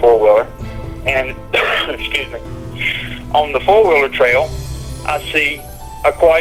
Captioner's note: coughs